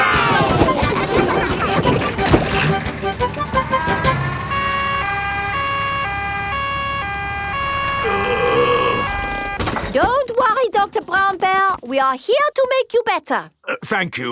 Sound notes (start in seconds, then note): 0.0 giggling; 5.1 siren wailing; 8.0 groaning